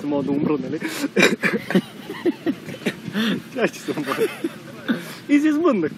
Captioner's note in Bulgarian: двамата се смеят с глас